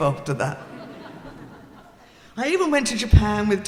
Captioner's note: audience laughing